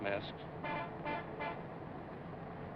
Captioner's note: honking